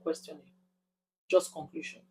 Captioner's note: paause